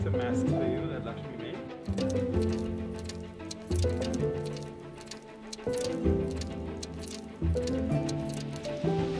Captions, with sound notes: - We have some masks that Lakshmi made. (energetic music) (rustling paper)